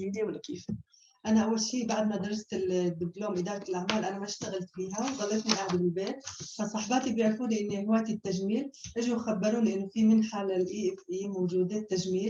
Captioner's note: non-english speech